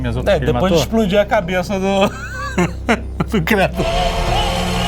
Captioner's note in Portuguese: risos